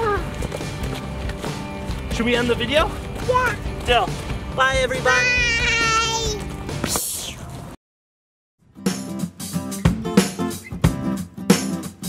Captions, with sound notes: - Wow! - Shall we end the video? - Yeah. - Bye everybody. - Bye (whoosh) (light, happy music)